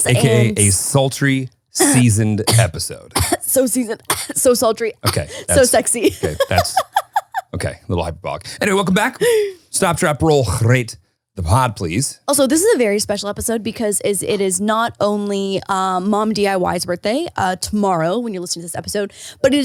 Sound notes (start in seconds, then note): 4.0 coughing; 7.3 laughing